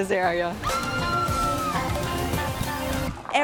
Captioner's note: woman screaming